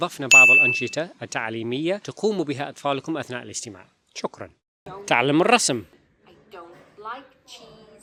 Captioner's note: said sarcastically